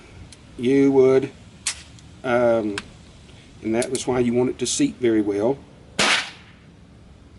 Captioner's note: click; gun fires